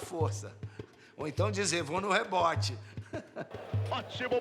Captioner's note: chuckles